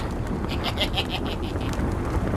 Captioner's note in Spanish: risa malvada